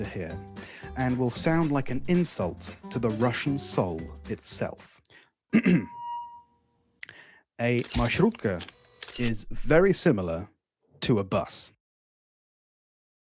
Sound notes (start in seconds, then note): 5.5 clears throat